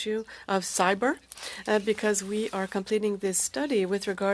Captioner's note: speaking French